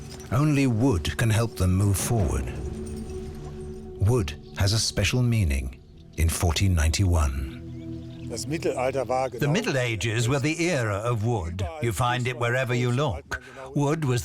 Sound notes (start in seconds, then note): 7.8 speaking German